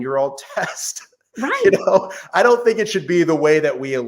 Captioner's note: laughs